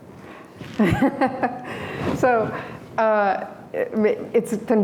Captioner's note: laughter